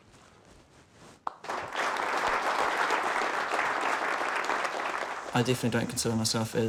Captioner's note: applause